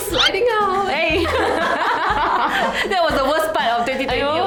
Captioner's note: laughs